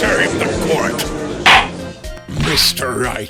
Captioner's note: gavel slams!